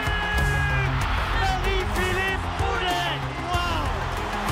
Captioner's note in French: cris des spectateurs